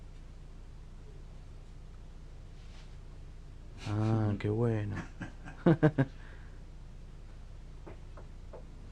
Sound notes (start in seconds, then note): 4.9 more laughter